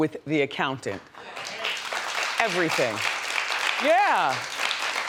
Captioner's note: audience applause